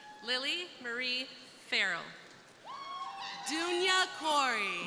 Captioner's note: crowd cheering